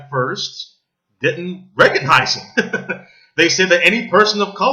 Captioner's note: laughs